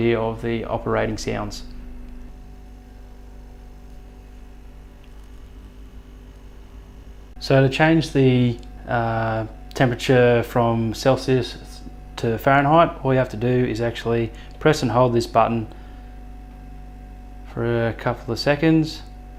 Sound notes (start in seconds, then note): 2.6 fridge whirring